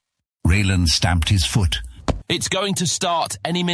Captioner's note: foot stomp